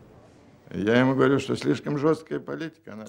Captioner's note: speaking Russian